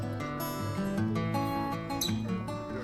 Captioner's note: fishermen cheering